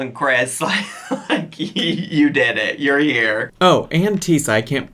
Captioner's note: chuckles